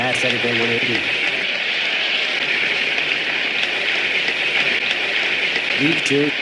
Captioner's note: applause